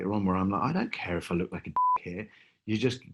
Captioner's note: beeping